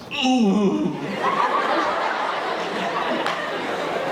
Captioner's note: audience laughing